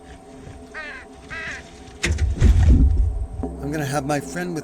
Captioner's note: bird squawks